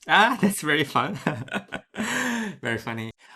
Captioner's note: light laughs